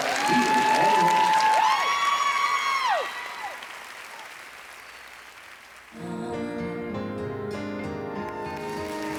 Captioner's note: cheering